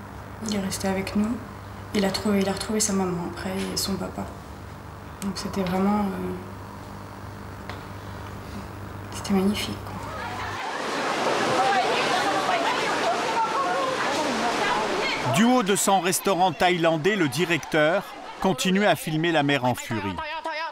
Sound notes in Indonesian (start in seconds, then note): 10.1 suara gemuruh air; 10.6 suara kepanikan